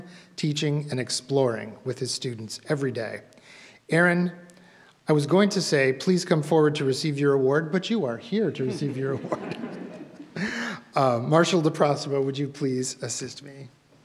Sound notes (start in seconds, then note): 8.6 audience laughs; 8.7 laughs